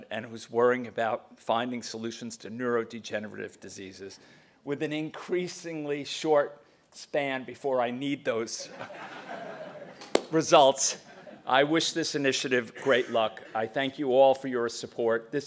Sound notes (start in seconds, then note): 8.7 laugh